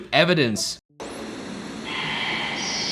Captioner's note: static plays